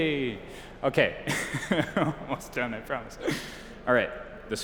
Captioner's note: chuckles